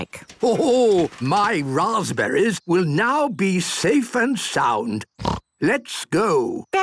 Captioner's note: snort